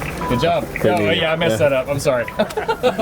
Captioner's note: laughing